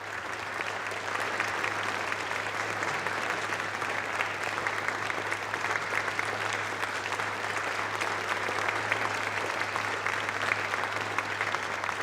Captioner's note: applause